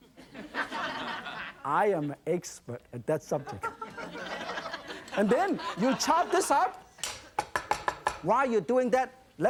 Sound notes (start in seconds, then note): 0.2 audience laugher; 3.4 audience laughter; 7.5 chopping